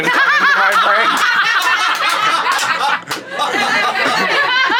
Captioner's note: everyone laughing heartily